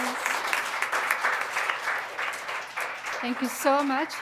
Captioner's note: applause